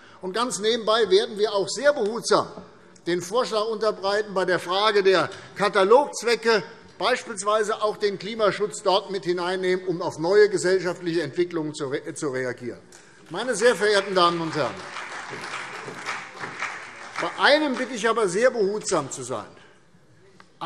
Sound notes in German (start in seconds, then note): 13.3 Beifall CDU